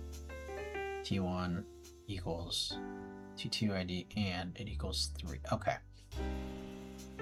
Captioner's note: mumbling to self